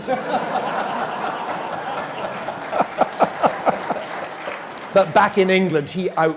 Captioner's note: laugh